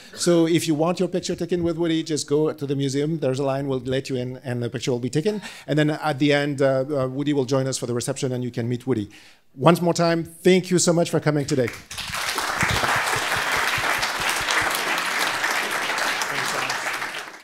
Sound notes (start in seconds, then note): 11.6 audience clapping